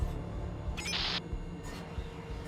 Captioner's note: static